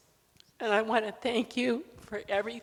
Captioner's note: voice trembling